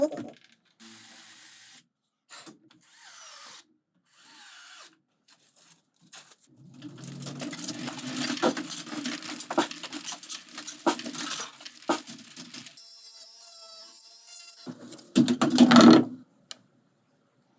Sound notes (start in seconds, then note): 6.8 high speed marbles rolling; 12.8 dremel whining